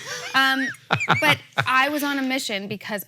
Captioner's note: Hank laughs